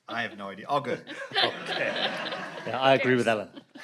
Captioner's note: audience laughs